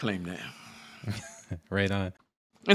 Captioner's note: laughter